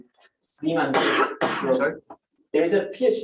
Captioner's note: coughing